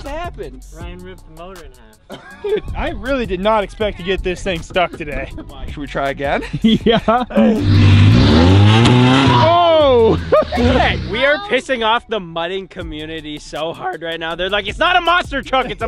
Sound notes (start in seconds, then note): 2.0 laughing; 7.4 engine revving